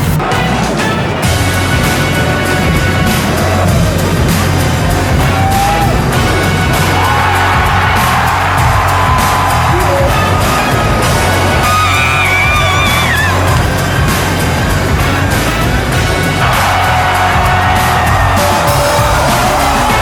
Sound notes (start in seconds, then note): 7.1 crowd cheering; 16.5 upbeat music continues